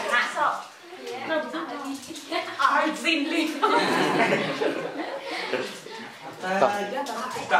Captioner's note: chattering